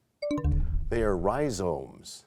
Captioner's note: bell chimes, time expires